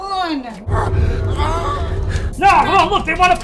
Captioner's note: Gollum moans